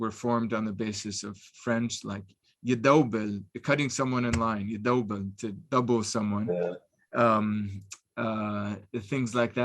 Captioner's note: Arabic